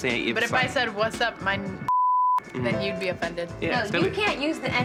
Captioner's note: beep